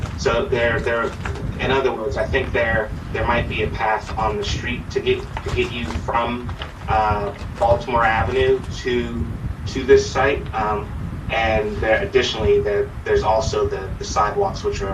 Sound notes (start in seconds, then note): none